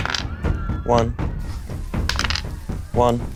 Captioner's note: dice rolling